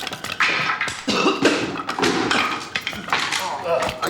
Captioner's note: coughing